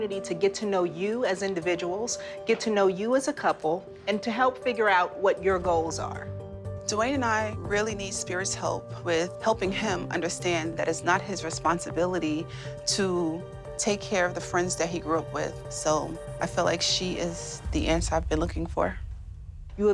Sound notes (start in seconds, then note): none